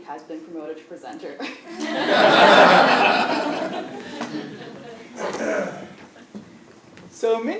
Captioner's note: laugh